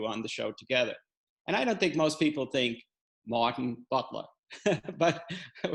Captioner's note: laughs